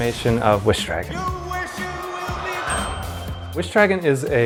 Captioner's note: ding